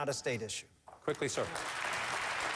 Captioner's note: applause